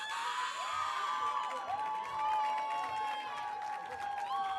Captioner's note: audience cheering